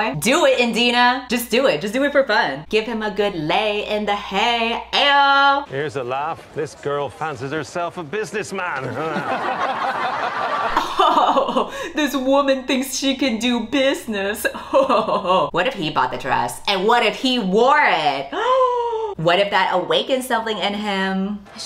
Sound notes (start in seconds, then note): 8.8 laughter; 18.6 gasps